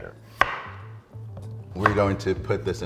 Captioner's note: upbeat funky music; knife hits chopping block